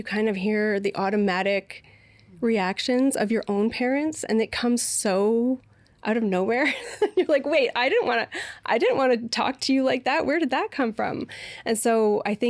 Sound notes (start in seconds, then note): 6.6 laughing